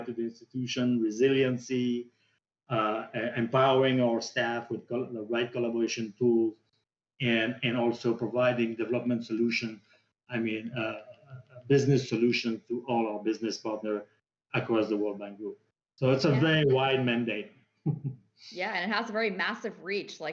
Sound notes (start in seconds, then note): 17.8 chuckles